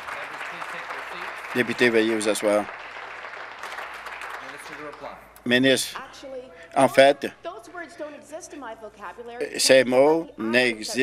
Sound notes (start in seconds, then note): 1.5 applause